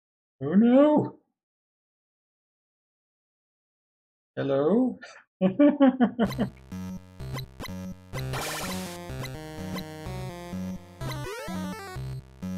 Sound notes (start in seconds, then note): 5.4 chuckles nervously